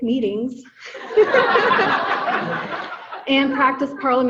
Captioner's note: audience laughing